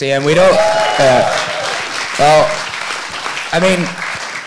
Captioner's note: audience cheering